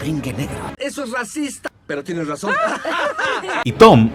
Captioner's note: they laugh